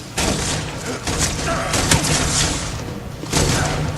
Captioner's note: gunshot sounds